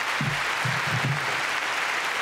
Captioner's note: applause continue